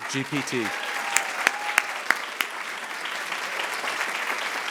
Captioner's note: attendees applauding